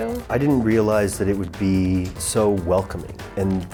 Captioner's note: none